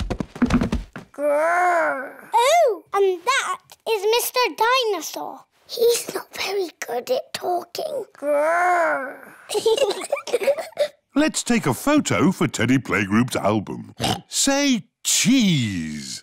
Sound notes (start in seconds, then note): 5.5 whispers; 9.2 both giggle; 13.9 oinks